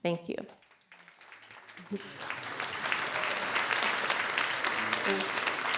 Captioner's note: audience applauds